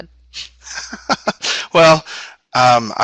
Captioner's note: laughter